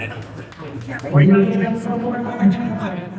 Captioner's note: crowd chattering